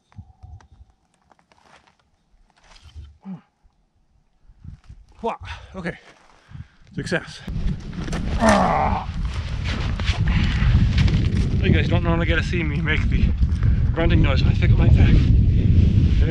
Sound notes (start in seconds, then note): 8.4 grunts